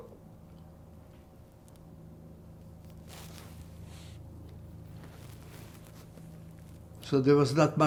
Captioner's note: pauses 6 seconds